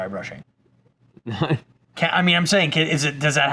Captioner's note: chuckles